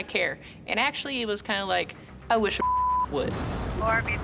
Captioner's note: beep